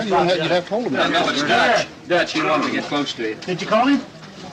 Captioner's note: men chattering